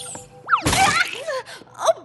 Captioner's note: splat